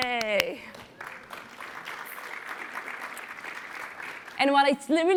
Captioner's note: applause